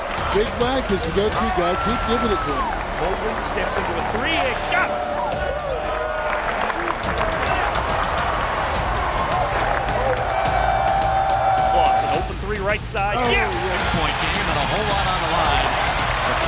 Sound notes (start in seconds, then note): 5.3 crowd cheering; 5.3 intense music